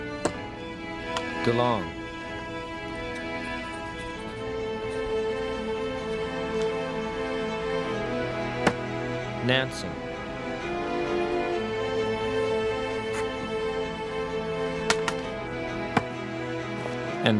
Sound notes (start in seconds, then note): 0.2 thumping; 4.0 pen scratching; 8.5 thumping; 11.8 pen scratching; 14.8 thumping